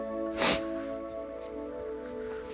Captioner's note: tearing up